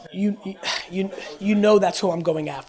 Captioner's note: murmurs